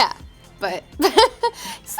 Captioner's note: laughing